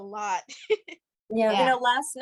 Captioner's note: laughter